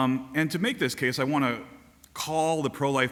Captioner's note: none